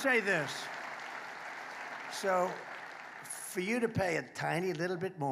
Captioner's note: applause